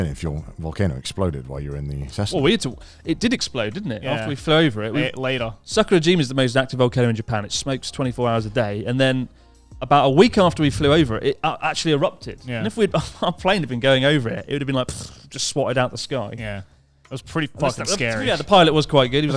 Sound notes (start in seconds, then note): 15.1 spluttering